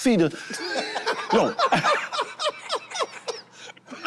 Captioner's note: group laughing